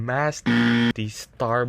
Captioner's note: extremely loud incorrect buzzer